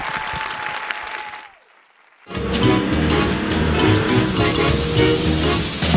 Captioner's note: cheers and applause